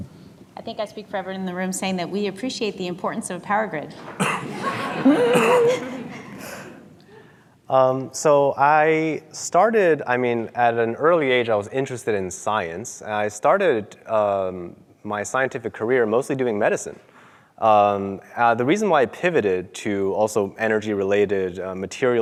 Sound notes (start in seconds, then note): 4.1 audience laughing